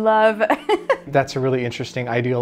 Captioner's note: laughing